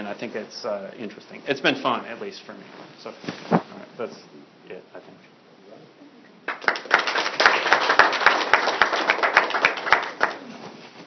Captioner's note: applause